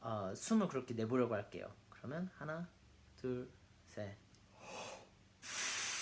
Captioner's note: inhale